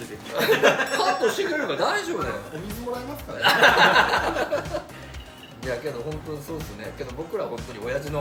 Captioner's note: laughter